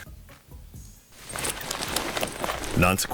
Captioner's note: purses rustling